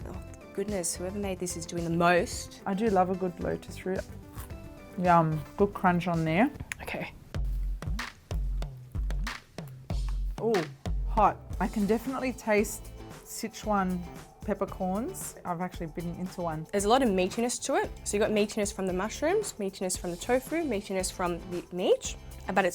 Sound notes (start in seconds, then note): 4.2 food cracking; 7.8 upbeat music